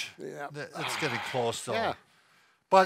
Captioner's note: sighs